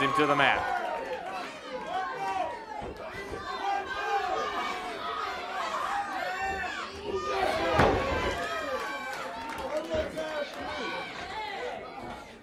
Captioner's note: crowd chatter